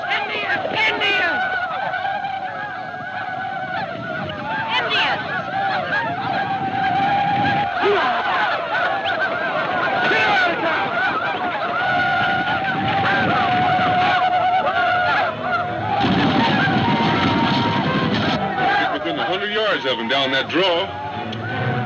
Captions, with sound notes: - Indians! - Indians! - Indians! (man exclaims) - He's within 100 yards of him down that draw.